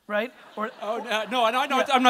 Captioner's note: audience laughter